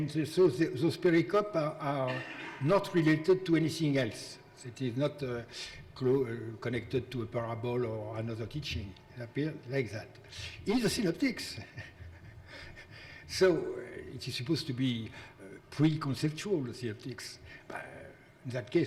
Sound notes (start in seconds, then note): 11.5 laughs